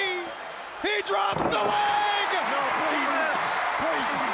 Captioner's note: crowd cheers